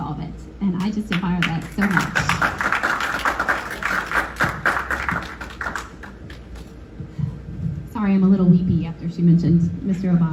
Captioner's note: applause